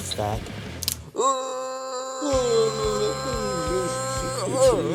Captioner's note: wailing